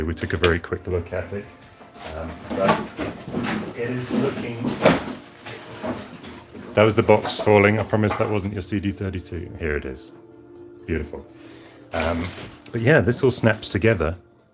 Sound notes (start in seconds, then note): 4.3 rummaging noises